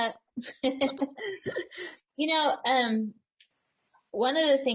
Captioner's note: laugh